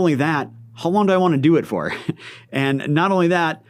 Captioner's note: chuckles